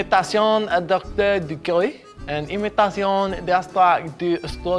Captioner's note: imitating foreign language